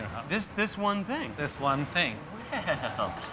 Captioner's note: chuckling